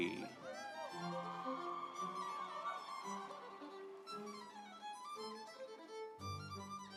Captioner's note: audience cheering; instrumental music